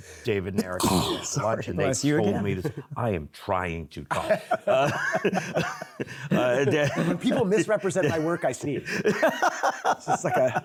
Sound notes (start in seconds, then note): 0.7 sneezes; 8.8 laughs